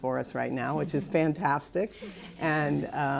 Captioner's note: laughter